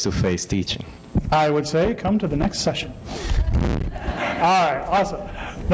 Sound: laughter

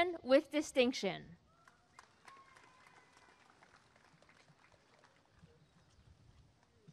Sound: applause and cheering

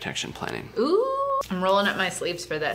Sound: howling

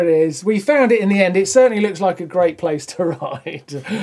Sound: laughs

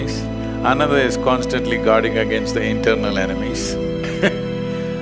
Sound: laughs

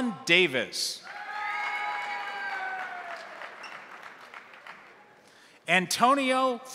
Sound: crowd cheering; crowd applauding

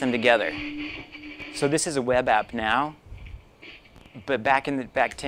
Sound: audio changes to a different scratchy clip

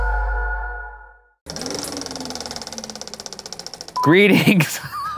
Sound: mellow tone; film reel clicking; beep; laughs

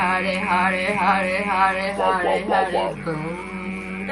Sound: humming

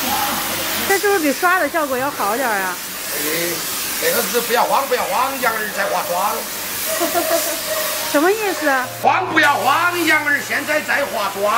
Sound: they chatter

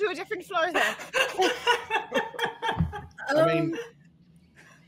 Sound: all laughing

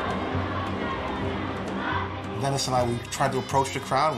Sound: people chanting

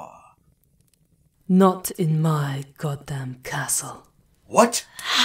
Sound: voice echoing from the shadows

